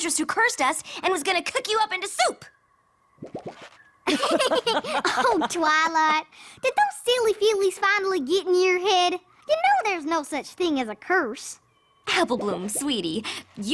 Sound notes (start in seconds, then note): 4.0 both laugh